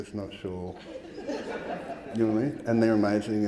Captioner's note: audience laughing